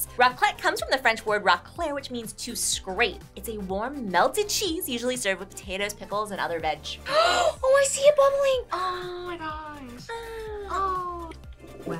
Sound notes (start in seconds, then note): 7.1 gasps